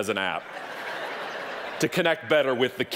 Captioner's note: audience laughing